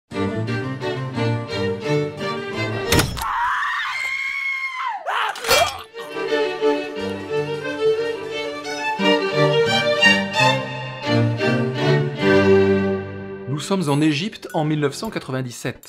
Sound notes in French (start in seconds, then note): 0.1 Musique classique; 2.9 Bruits d'armes et cris; 5.9 Musique classique